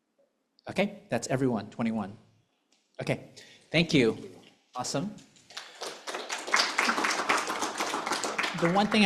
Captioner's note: applause